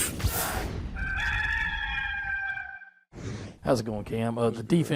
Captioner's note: rooster crowing